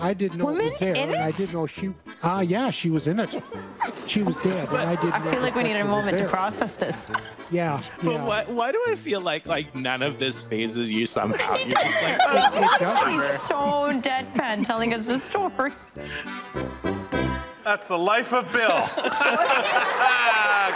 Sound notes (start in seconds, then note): 11.4 laughing; 15.2 laughs; 15.7 mischievous folk music; 18.4 attendees laughing; 19.1 audience cheering